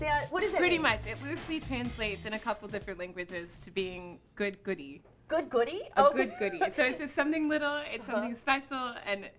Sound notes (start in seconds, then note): 6.6 laughs